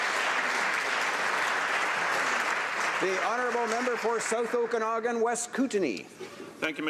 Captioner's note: applause